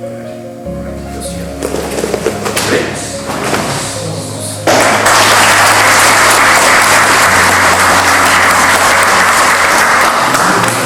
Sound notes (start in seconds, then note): 4.7 clapping